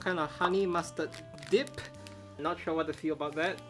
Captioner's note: graphic pops